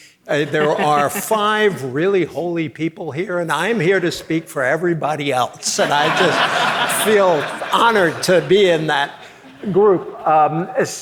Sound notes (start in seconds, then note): 3.5 audience laughing